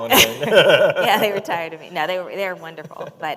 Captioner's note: chuckle